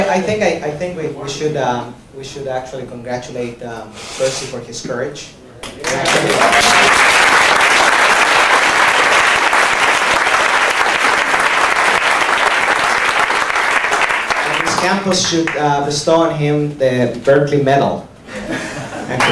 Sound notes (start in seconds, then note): 5.6 applause